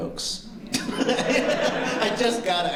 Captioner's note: laughter